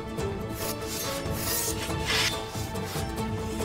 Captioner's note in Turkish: Kılıç çekme sesi